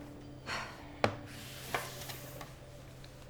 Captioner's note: Jenna sighs